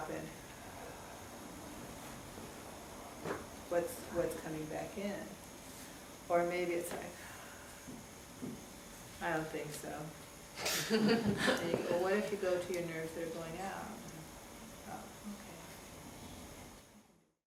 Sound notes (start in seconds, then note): 7.9 sighs; 10.9 audience laughing